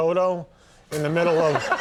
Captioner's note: audience laughing